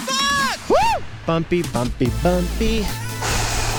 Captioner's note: sighs heavily